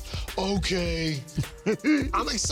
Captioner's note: laughs